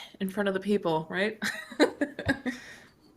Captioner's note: chuckles